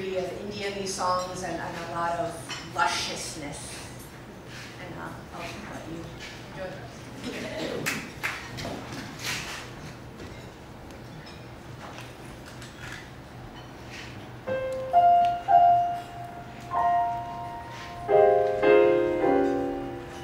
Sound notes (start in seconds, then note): 7.2 quite chuckles